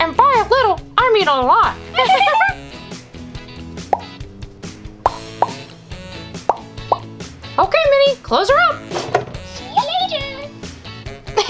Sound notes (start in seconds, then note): 1.9 laughs; 5.0 popping; 8.8 door closes